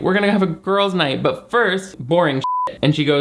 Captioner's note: beep